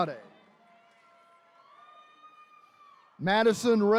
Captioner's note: attendees cheering